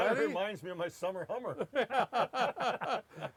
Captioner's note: laughs